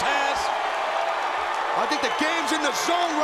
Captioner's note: audience cheering